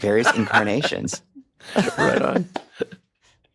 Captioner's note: laughs